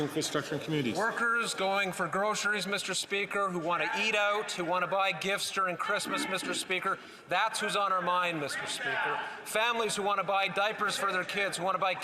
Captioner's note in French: voix de l'interprète